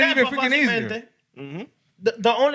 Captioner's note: speaking Spanish